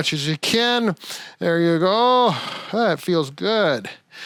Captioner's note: exhaling